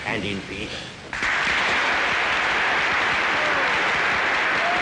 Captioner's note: crowd claps